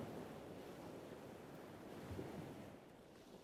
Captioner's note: sound of gentle waves